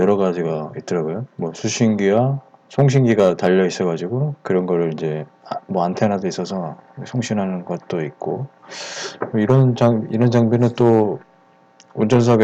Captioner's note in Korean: 무선으로